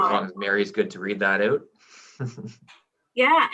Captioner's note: chuckles